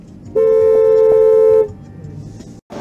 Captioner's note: dashcam driver honks